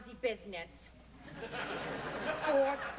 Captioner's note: audience laughter